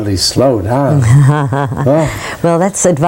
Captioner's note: laughing